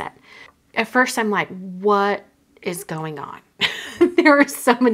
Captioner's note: chuckling